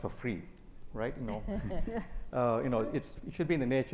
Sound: both chuckle

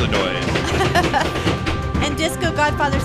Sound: laughing

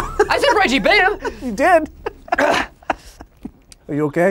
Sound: laughs

